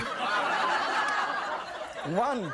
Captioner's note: audience laughing